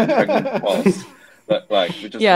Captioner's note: laughing